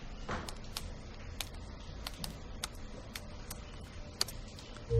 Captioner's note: typing